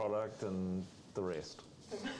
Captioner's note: laughter